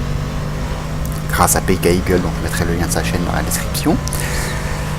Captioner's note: again in french